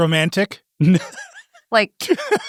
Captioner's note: laughs